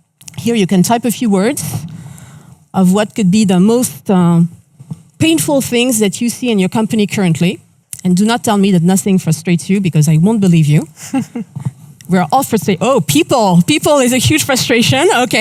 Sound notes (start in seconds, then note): 11.0 chuckles